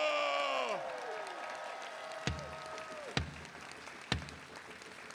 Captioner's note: attendees cheering; walking stick thudding; attendees applauding